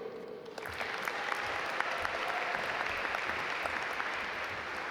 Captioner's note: audience applaud